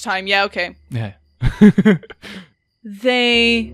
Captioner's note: laughs